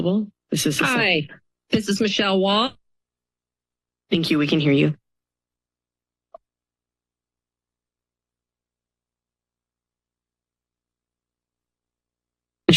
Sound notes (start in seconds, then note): 2.8 silence; 5.2 silence